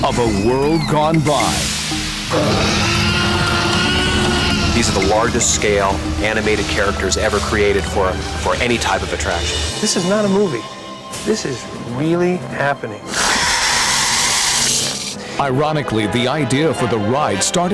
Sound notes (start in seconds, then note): 2.3 dinosaur roars; 13.1 dinosaur roars